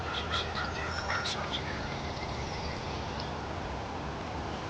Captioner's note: whispering